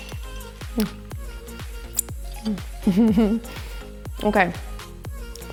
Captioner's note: giggles